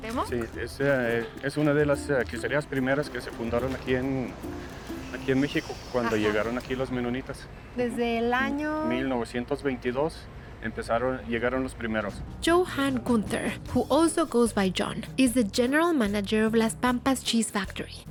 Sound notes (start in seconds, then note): 0.2 speaking Spanish; 7.6 both speaking Spanish